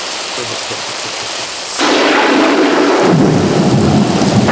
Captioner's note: thunder clapping